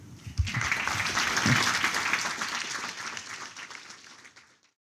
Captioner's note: applause